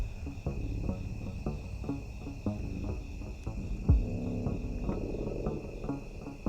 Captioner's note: crickets chirping; tense music